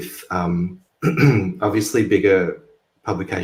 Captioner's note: clears throat